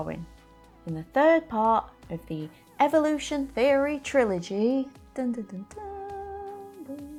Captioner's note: hums part of theme